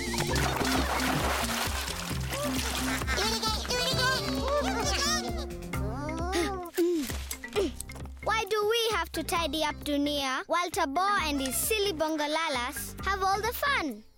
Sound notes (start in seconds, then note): 0.0 splash!; 6.2 grunting softly